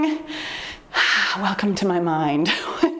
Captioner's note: exhales sharply; chuckles